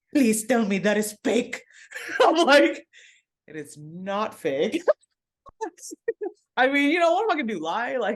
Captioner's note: laughs